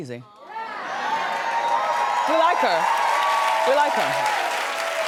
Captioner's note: audience cheers